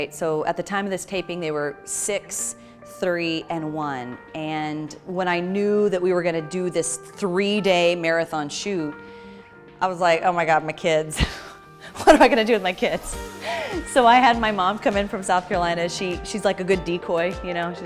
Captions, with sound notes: So at the time of this taping they were six, three, and one. And when I knew that we were going to do this three-day marathon shoot, I was like, "Oh my god! My kids." (Chuckles) "What am I going to do with my kids?" So I had my mom come in from South Carolina, she's like a good decoy,